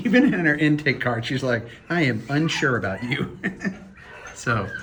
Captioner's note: laughs